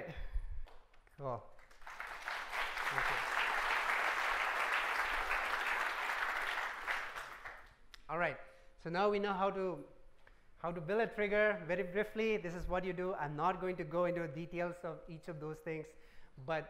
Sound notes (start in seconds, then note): 7.2 applause